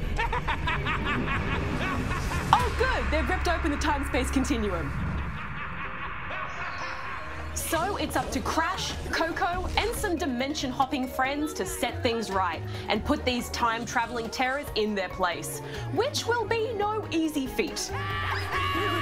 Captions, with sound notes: Oh, good. They've ripped open the time-space continuum. (N. TROPY CACKLES) So it's up to Crash, Coco and some dimension-hopping friends to set things right and put these time-travelling terrors in their place, which will be no easy feat.